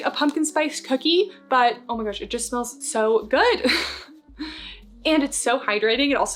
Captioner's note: chuckles